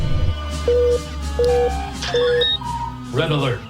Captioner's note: red alert klaxon beeping